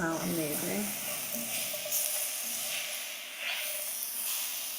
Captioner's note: food sizzling